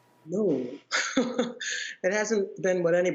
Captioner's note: laughter